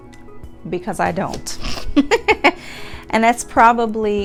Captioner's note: laughs